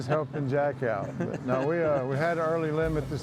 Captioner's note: chuckling